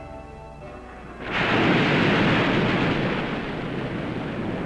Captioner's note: waves crashing; waves roaring